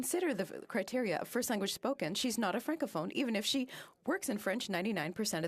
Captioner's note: speaking French